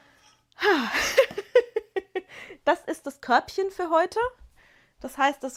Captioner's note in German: gelächter